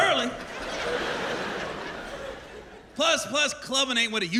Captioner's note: laughter